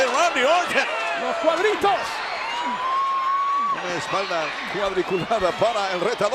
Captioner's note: applause